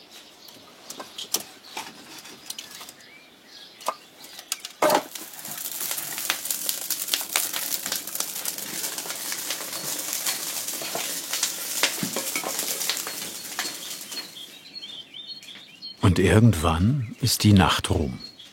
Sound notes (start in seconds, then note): 5.7 crackling